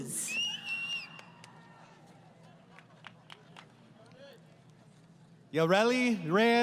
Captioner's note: crowd Cheering